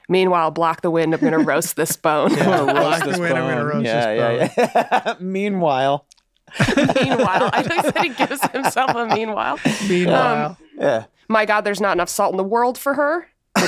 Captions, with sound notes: meanwhile block the wind, I'm gonna roast this bone. - I'm gonna roast this bone. (laughs) Meanwhile. (all laughing) - I love that he gives himself a meanwhile. "My god, there's not enough salt in the world for her."